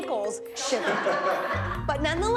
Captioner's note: laughing